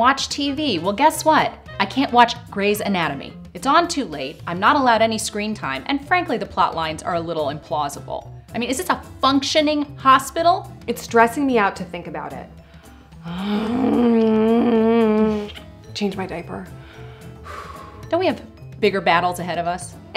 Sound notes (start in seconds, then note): 13.2 stressed out grunt; 16.8 sigh of relief